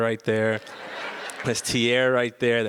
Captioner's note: audience laughs